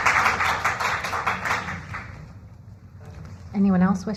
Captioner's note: applause